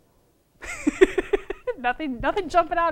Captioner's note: laughter